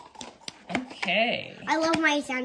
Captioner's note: makes silly sounds